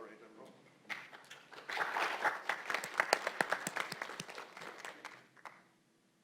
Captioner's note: applause